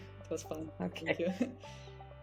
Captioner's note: chuckles